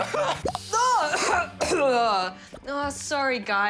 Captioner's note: coughs; fake coughs